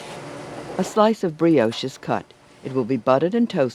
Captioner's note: voiceover